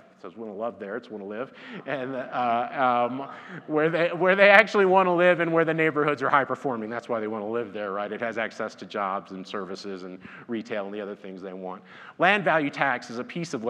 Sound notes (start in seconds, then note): 1.6 laughs; 2.3 audience laughs; 4.5 laughs